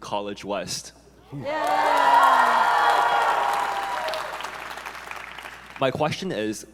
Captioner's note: audience members cheering